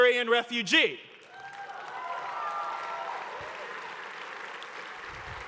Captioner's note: cheering and applause